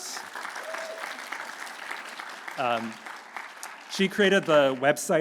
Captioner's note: audience cheering